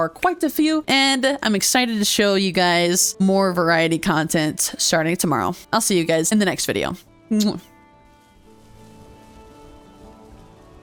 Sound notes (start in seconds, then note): 7.4 kiss